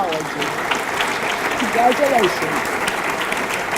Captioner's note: audience clapping